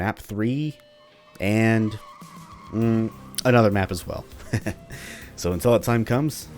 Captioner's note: chuckles